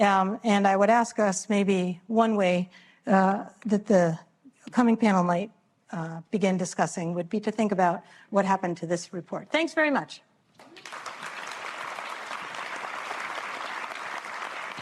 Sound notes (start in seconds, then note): 10.6 applause